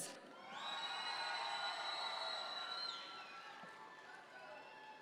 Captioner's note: audience members cheer